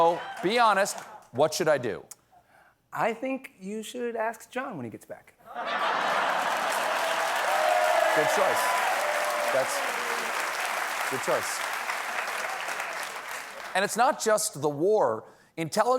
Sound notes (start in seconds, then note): 8.1 cheers and applause; 8.1 laughter